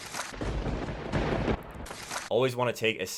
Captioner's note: lightning striking